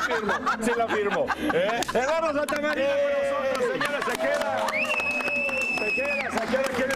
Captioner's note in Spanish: risas